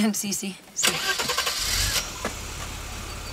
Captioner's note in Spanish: Arranque motor